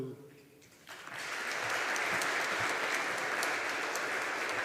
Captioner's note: audience applauding